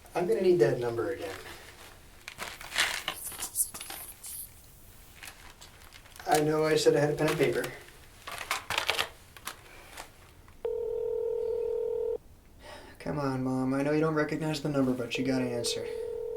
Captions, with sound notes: I'M GONNA NEED THAT NUMBER AGAIN (Mrs. Foster mumbling) I KNOW I SAID I HAD A PEN AND PAPER... (phone ringing) C'MON MOM. I KNOW YOU DON'T RECOGNIZE THE NUMBER, BUT YOU'VE GOTTA ANSWER